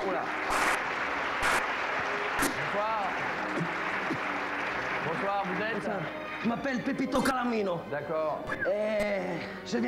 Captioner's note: applause